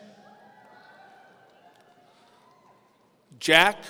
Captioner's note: audience cheering